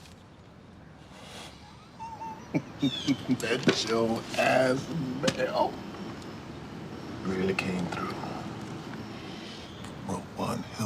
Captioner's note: chuckles